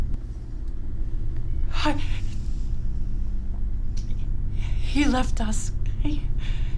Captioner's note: shudders